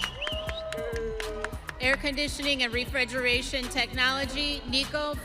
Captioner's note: audience cheering